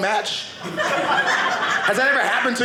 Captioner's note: audience laughing